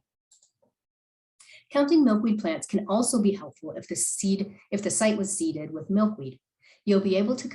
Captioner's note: click